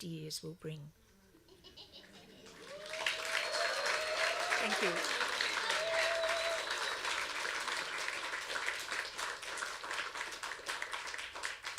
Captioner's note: applause